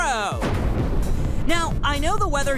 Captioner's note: thunder